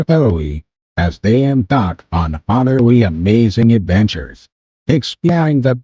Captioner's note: voiceover